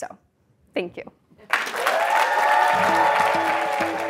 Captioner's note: applause